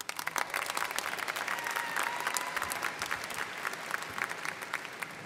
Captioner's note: students cheering and applauding